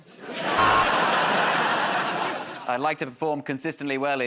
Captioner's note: sultry voice; laughter and applause; buzzer